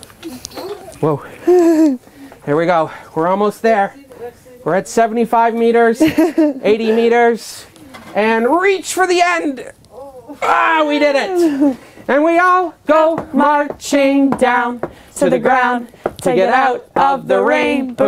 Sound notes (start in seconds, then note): 0.2 laughs; 6.0 laughs